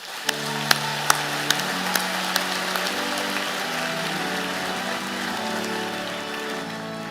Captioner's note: applause